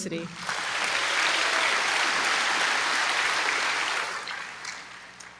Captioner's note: applause